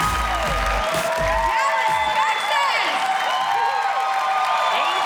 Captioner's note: laughs